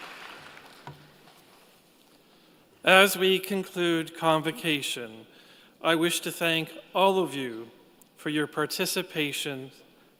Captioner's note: applause